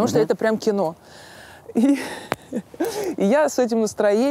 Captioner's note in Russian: смеётся